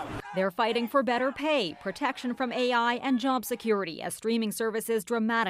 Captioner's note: chanting